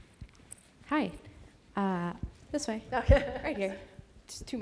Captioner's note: presenter laughs